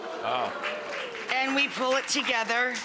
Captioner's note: crowd cheering and clapping